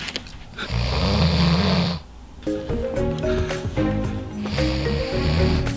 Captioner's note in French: ronflement